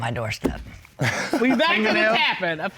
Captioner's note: laughs